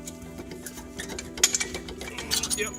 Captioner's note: metal clang